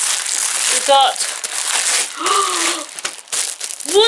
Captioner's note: gasp